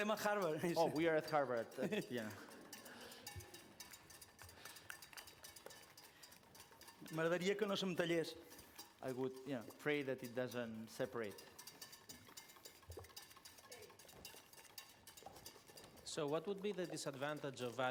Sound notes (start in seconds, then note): 7.7 non-english speech